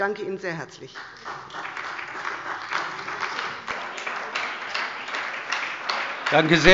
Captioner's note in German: Beifall bei der SPD